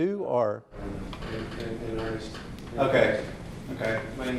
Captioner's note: softly talking off mic